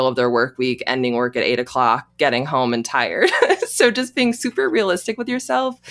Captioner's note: chuckles